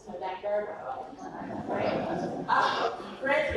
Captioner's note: audience laughs